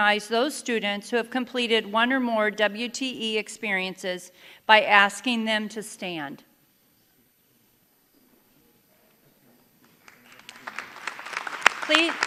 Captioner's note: applause